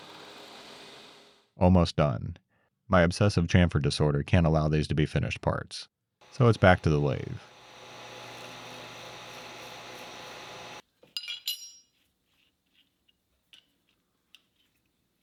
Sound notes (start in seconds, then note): 1.6 machine whirring